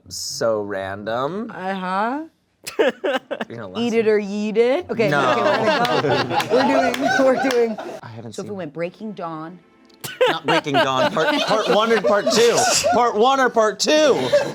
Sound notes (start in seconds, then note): 2.7 laughs